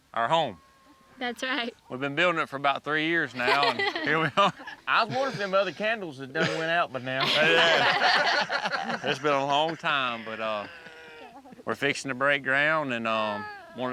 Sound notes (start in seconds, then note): 3.3 laughs; 7.0 everyone laughs